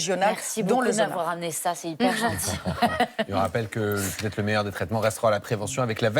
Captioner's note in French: rires